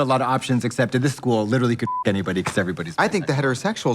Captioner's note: beep